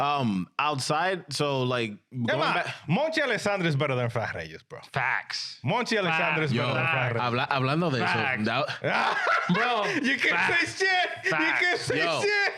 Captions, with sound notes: Outside, so like-- (Speaking In Foreign Language) Facts. (Speaking In Foreign Language) (Laughing) You can say shit. You can say shit.